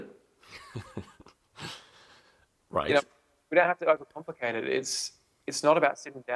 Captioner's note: laughs